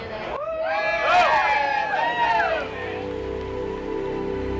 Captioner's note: cheering